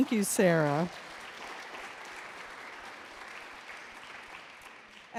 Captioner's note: audience applauds